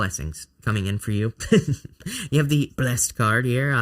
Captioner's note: chuckling